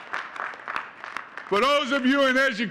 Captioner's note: audience cheering and clapping